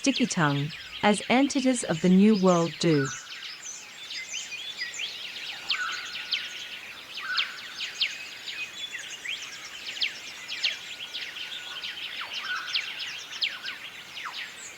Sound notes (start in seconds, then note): 3.8 birds chirping